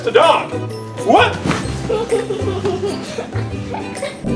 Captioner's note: giggling